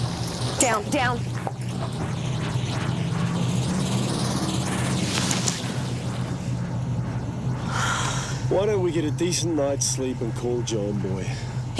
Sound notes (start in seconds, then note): 7.7 Jodie sighs